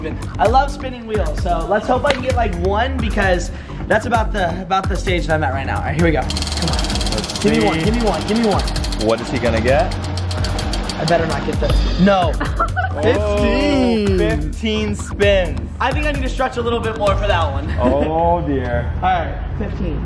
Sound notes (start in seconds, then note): 12.3 laughing